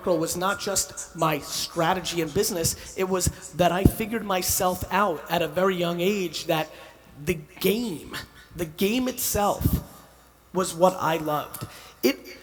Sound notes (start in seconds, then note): none